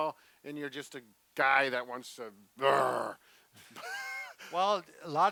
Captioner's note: growling; both laughing